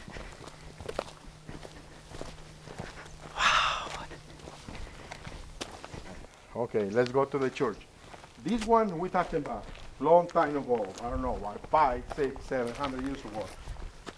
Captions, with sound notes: [whispering] Wow! Okay let's go to the church. This one we're talking about long time ago. I don't know what 5, 6, 700 years ago